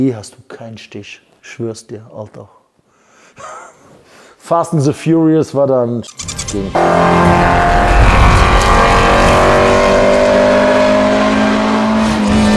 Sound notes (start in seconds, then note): 3.4 laughter; 6.6 engine sounds